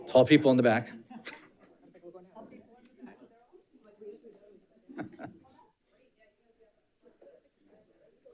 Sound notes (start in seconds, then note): 2.2 panelist chattering